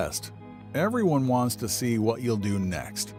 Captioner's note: voiceover